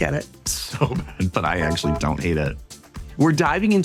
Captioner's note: chuckles; bus beeping